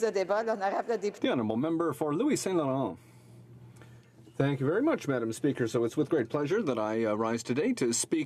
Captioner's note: speaking french